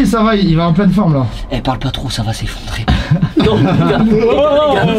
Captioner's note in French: rires